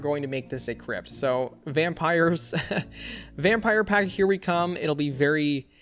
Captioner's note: laughs